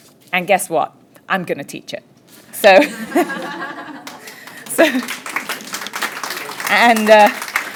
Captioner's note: laughter and clapping